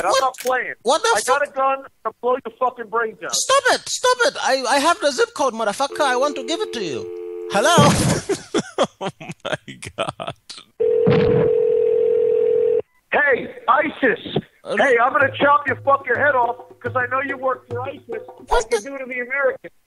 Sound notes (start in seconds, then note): 7.7 laughs; 10.8 telephone Ringing